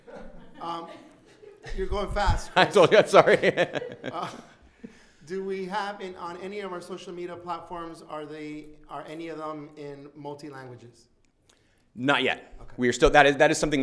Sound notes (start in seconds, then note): 0.0 laughing